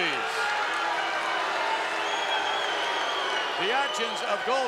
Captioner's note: crowd yelling